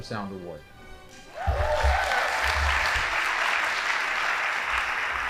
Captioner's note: audience applauding